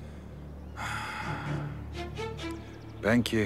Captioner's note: breathing sound